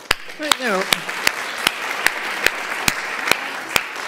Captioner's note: applause